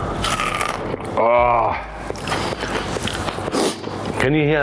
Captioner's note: potato crunching; sniffs